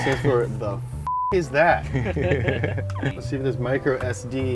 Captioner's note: beeps; all laugh